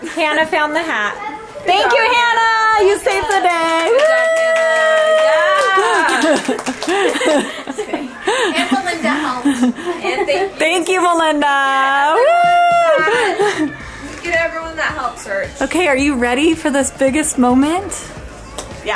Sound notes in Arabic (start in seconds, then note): 3.2 الضيوف يصفقون; 5.5 كريستال يضحك; 13.0 يضحك كريستال